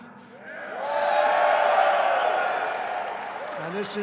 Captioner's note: applause